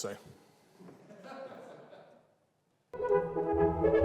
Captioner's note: audience laughs